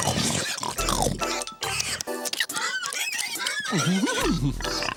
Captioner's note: snorting; creaking